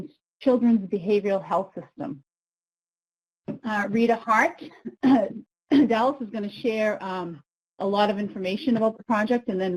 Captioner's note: coughs